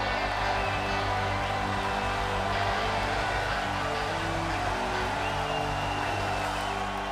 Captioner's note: crowd cheering